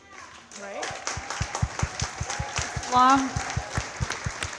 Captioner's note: all cheering and clapping